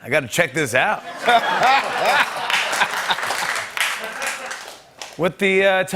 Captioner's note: laughter